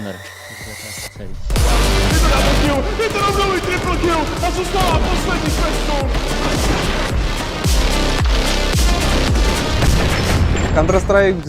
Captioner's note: commentator wildly commentating again